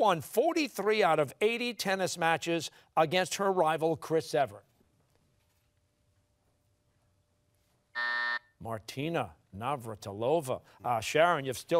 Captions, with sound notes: who won 43 out of 80 tennis matches against her rival, Chris Evert? (buzzer sounding) Martina Navratilova.